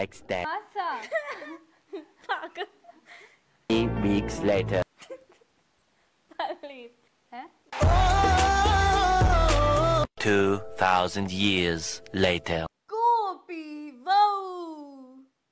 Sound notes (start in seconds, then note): 1.0 starts laughing again; 5.0 keeps laughing